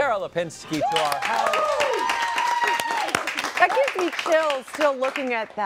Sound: applause

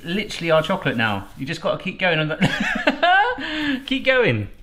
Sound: laughs

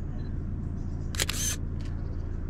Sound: camera shutter clicks

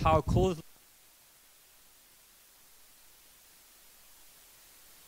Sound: white noise

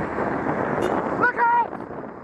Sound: beeps horn

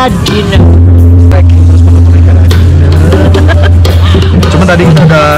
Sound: giggle

